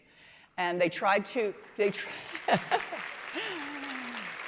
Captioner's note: applause